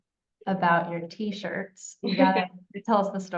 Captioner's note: laughing